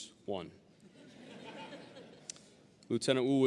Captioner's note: audience laughing